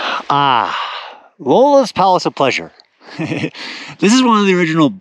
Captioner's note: chuckles